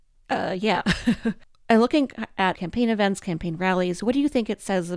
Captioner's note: laughs